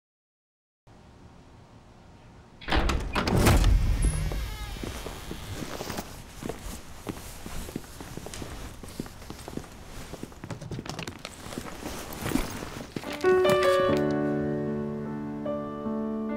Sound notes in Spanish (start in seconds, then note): 2.6 puerta abriendo